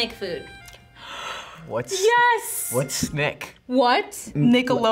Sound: gasps

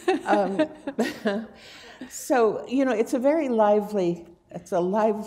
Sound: laughter

